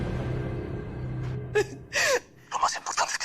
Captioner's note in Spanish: Sollozos